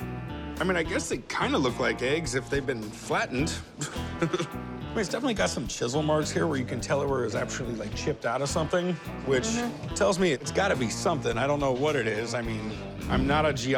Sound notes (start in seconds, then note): 3.7 chuckles